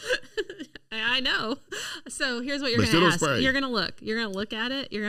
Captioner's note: laughing; laughing